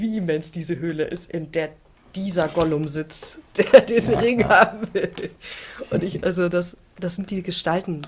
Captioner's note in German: gelächter